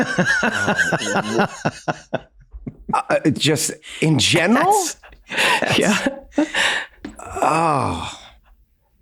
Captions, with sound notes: (Glenn laughs) - Just in general? - Yeah. (Rob groans)